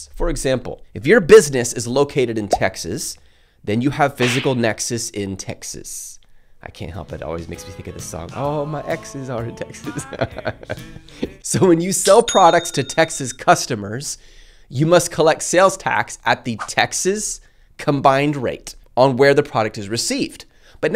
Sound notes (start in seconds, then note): 9.8 laughs